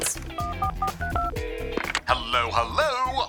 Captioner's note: dialling